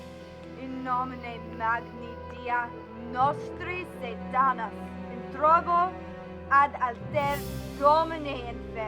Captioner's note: chanting in foreign language